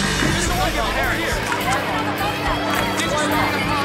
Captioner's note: indistinct chattering